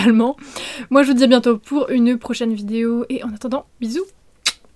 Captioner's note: kiss